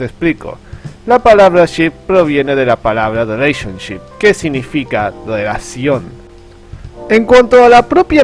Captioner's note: in spanish